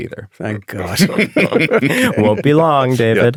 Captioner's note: group laughing